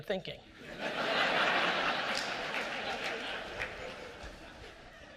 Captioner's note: audience laughter